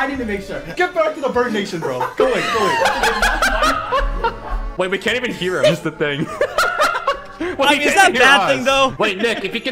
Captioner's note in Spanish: se muere de risa